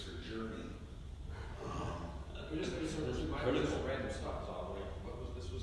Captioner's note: laughing